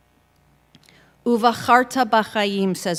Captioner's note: in Hebrew